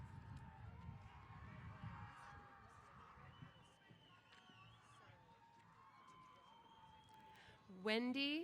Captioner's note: cheers